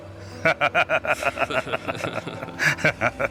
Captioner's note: Lucifer laughs; pastor laughs